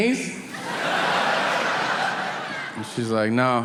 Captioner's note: audience laughing